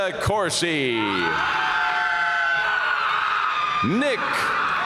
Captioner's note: audience cheering and applauding